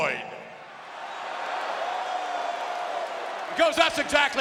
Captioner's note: audience cheering